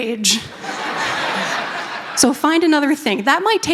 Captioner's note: laughter